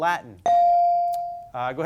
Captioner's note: bell sounding